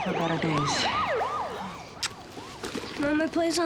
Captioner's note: siren wails in distance